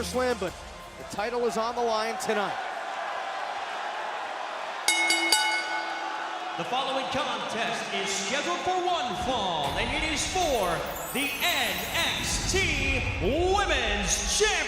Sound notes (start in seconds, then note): 3.0 crowd cheering; 4.8 bell ringing